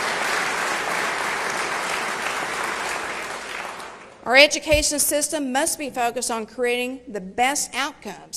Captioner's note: applause